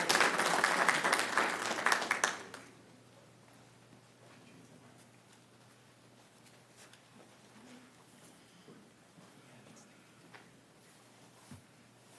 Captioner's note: applauding